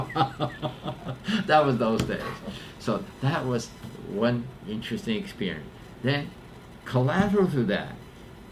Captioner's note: laughs